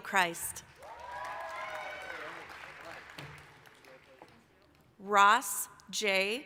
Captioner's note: applause, cheering